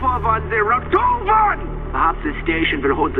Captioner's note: static